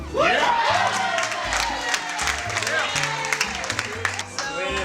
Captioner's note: applauding